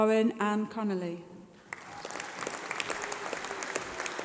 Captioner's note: applause